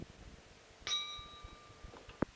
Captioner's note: bell Sound